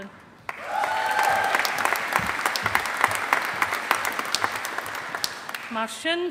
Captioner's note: audience applauding